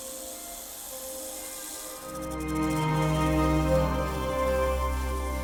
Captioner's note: rattlesnake noises